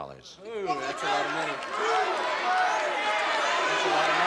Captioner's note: crowd clamoring